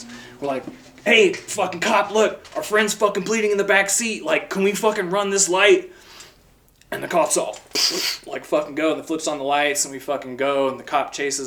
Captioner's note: ppttffffhhh